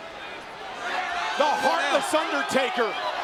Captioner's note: crowd chattering